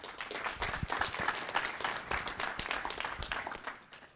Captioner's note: audience applauding